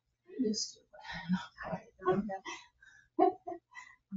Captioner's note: all chattering